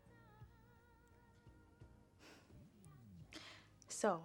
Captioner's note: sighs